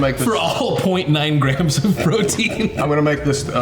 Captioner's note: laughs